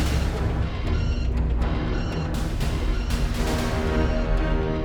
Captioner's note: warning sirens